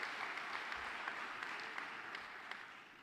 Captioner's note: applause